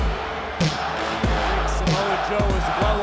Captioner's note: crowd chants "Joe"